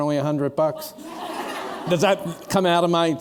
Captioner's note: laughter